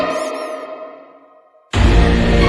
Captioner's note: scary music hit; squeaky toy